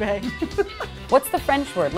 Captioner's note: laughs